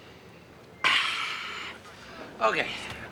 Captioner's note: sighs